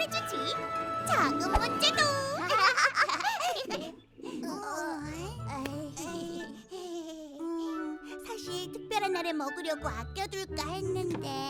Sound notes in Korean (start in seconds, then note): 1.9 웃음소리; 3.2 꼬르륵 소리; 5.7 민망한 웃음